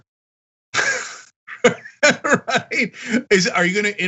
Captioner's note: laugh